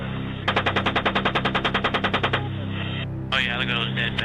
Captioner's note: helicopter guns rattle and burst